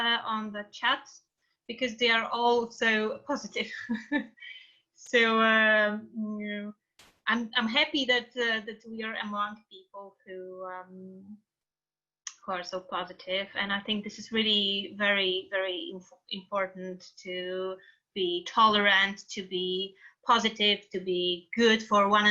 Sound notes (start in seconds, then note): 3.7 laughing